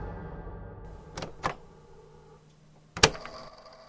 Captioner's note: click